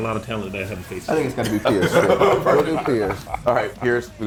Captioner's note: laugh